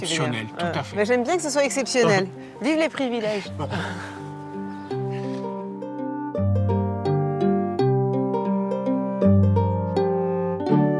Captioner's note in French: rires